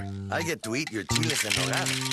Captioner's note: rattling